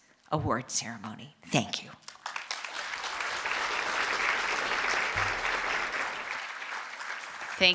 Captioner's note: applause